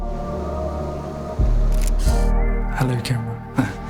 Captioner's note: camera shutter clicks